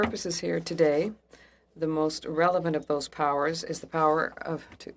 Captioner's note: speaking French